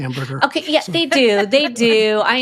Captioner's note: laughing